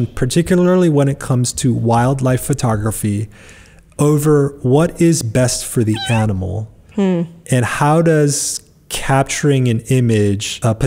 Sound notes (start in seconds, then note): 5.8 meow